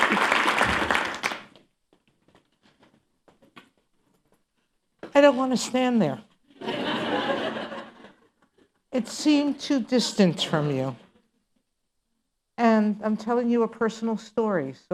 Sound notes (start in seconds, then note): 0.0 applause ends; 6.5 laughter